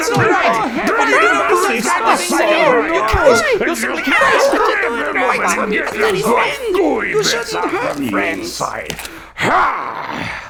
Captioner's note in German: zusammenhangloses, panisches Schreien